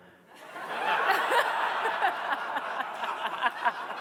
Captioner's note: attendees laughing